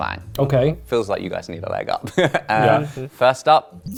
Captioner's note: laughs